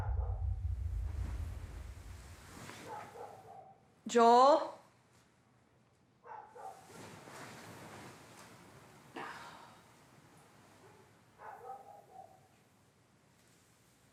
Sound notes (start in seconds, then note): 0.1 dog barking; 9.2 sighs; 11.4 dog barking